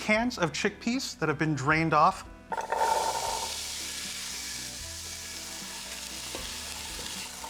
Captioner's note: sizzling